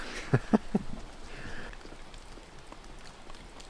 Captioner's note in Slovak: smiech